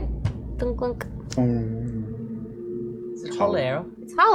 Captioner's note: hollow ringing